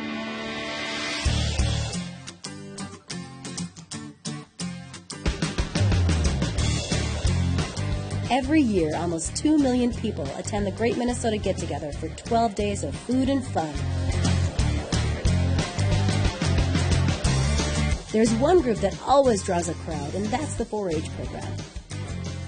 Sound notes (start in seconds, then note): 1.0 upbeat music; 8.3 voiceover; 14.1 upbeat music; 18.2 voiceover